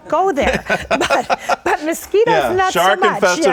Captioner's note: laughter